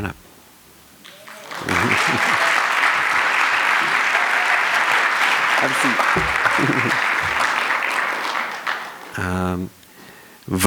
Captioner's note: applause